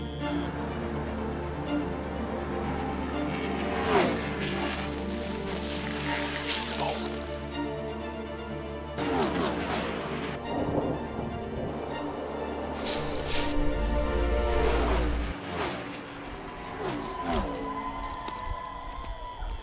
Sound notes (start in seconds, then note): 8.9 car engines roaring; 11.8 suspenseful music; 16.5 faint cheering